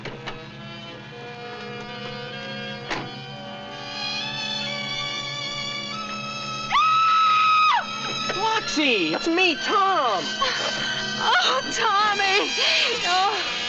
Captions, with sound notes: (metal thudding) (screaming) Roxy, it's me, Tom. - Oh, Tommy, oh.